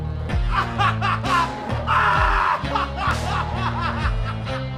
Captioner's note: laughing